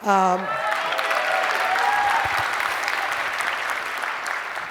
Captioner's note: applause